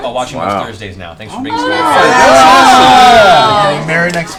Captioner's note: cheering